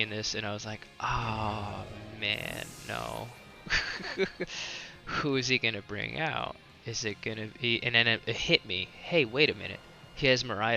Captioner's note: laughs